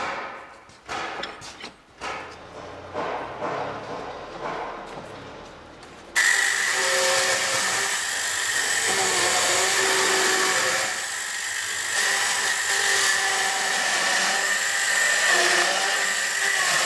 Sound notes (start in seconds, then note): 6.1 buzzing, sawing noise